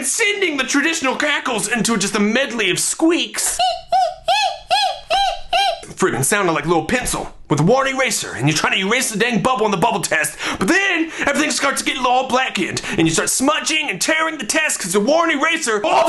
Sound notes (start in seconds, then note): 3.6 making squeaking sounds